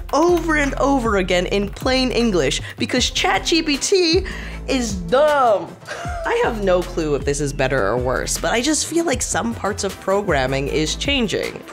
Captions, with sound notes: over and over again in plain English because ChatGPT is dumb. (chuckles) I have no clue if this is better or worse, but I just feel like some parts of programming is changing.